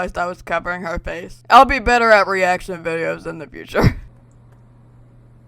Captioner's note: laughs